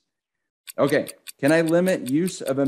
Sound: clock ticking

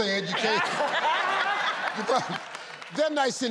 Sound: laughing

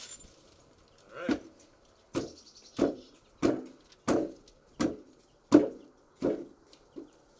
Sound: boot knocking

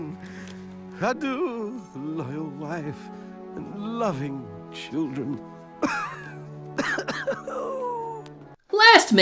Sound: coughing

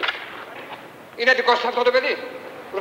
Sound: Greek spoken audio

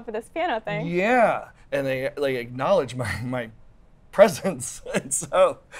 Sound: laughs

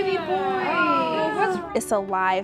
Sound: ahs

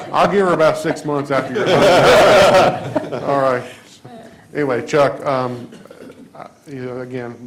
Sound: laughter

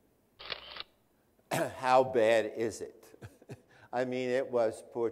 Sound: laughs

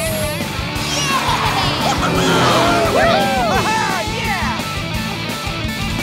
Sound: cheering

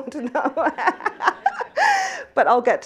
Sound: laughs

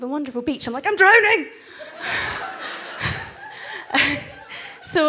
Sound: everyone laughs

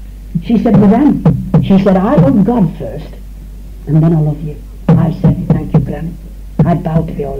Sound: foreign language

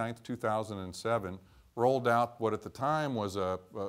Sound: none

